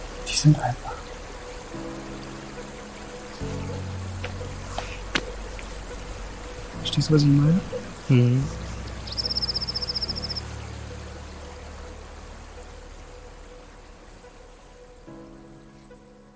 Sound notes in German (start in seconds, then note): 8.8 Windgeräusch und Vogelgezwitscher